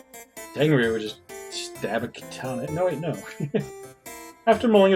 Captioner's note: chuckles